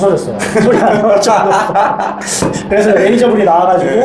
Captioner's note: laughs